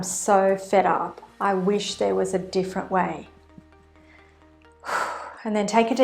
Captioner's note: exhales